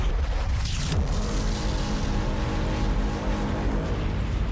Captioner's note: resonating sound blast